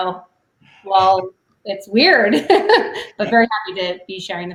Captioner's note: laughs